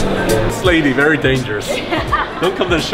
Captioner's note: laughing